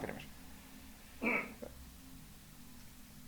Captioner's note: clears throat